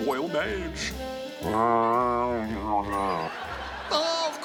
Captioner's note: grumbles; laughter